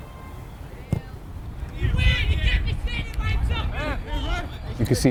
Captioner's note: players shouting